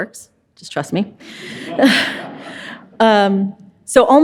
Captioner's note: audience laughs